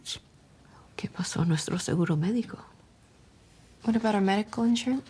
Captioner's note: widow speaks Spanish